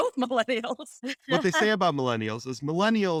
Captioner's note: laughter